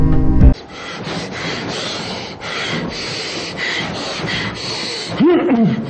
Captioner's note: labored breathing; man grunts